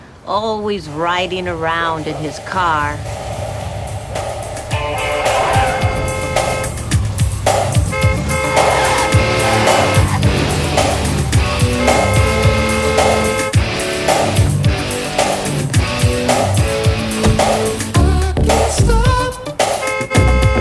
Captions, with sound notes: Always ridin' around in his car. [upbeat music] [car horn honking] [tires squealing] [car horn honking]